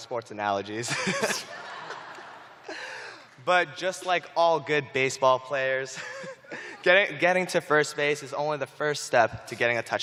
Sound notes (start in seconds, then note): 0.8 laughter; 0.8 chuckling